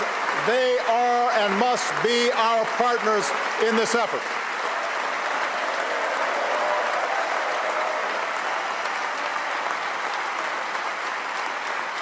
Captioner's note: cheers & applause